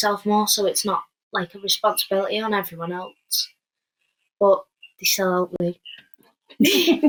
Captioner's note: laughs